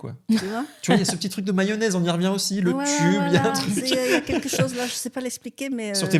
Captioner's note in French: rires